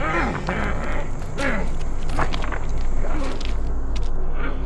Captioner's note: feet clacking on stones; Dogmouth growling